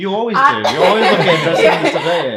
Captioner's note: irish laughing